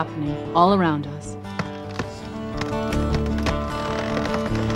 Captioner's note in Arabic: تشقق جذع الشجرة